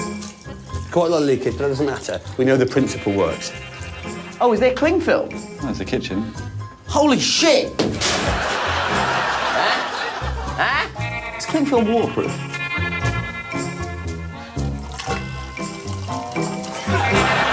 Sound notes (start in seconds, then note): 8.0 audience laughing; 10.5 applause